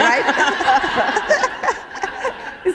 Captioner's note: laughter